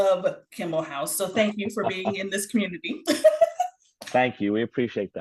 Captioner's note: chuckles